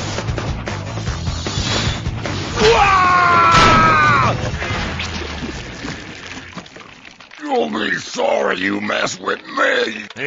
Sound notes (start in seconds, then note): 2.6 Cement Larry yells; 3.9 cement pouring